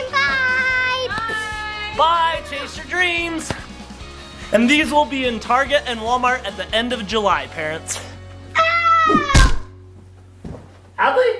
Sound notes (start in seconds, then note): 8.5 screams